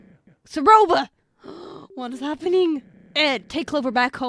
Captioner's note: gasp